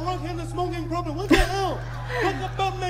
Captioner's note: laughing